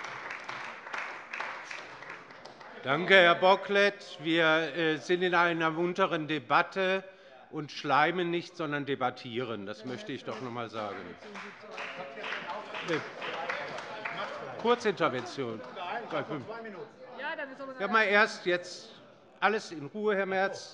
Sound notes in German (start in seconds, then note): 10.2 Beifall bei der FDP und bei Abgeordneten der SPD